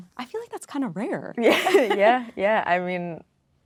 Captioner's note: laughing